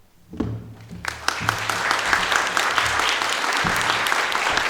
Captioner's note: audience applauding